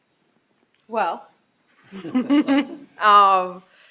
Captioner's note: laughing